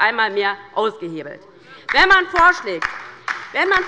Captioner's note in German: Beifall bei der LINKEN